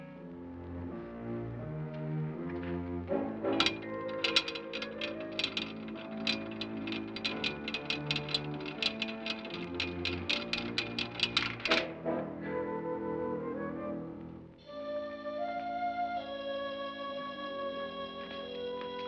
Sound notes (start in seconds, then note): 0.0 ominous music; 3.5 vat door rattles open; 12.1 ominous music